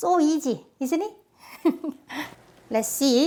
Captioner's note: laughs